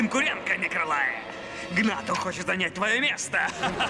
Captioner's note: laughs evilly